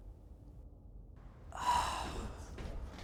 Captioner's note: sighs; footsteps